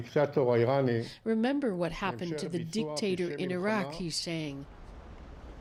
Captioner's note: speaking alternate language